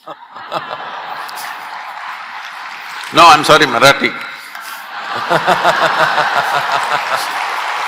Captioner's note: laughter/Applause; laughter/Applause